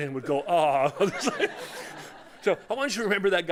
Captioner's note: laughter